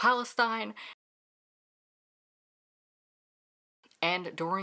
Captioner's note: no audio